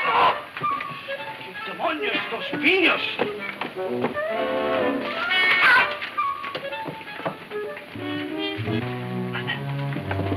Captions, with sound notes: (speaking foreign language) (playful music playing) (man shouting) - Oh no, you stay right there.